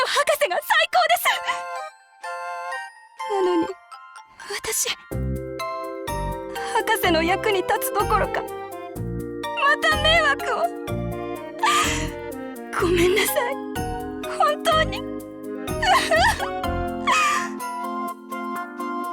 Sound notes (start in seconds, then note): 11.6 sob